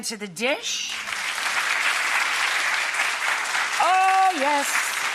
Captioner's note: audience clapping